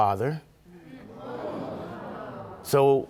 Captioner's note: audience murmuring